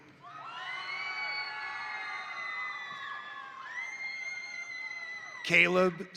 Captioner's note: crowd cheering; crowd applauding